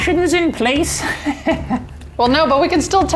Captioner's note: giggles